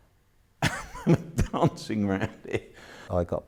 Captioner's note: laughs